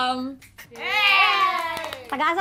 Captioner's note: applause